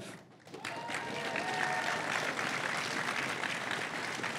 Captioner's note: crowd cheering and applauding